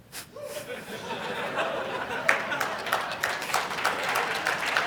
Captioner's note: audience laugh and applaud